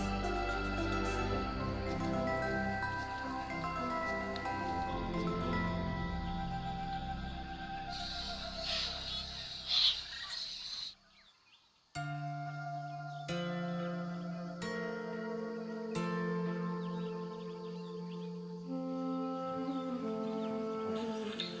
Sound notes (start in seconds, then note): 6.9 birds chirping; 11.9 soft peaceful music